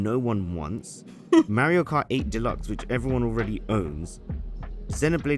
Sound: laughs

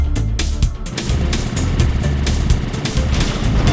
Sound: game sound effects

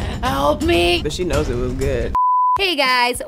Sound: screen beeps

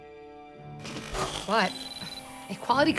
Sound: slide buzzing

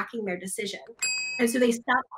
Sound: bell dings

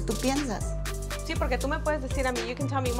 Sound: speaks in foreign language

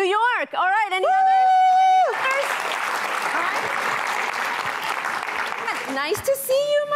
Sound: cheering

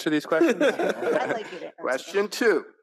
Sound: all laughing

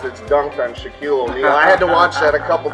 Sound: laughs

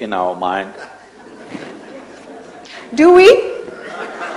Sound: laughter

